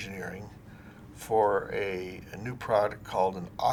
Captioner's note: none